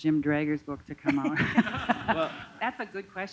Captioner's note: laughter